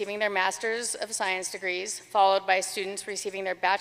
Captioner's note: none